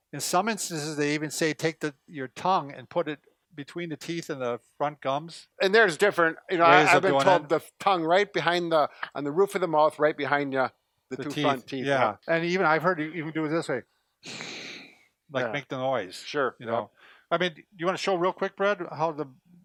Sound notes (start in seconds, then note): 14.2 raspy exhale